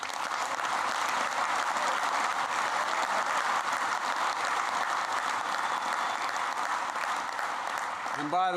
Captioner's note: applause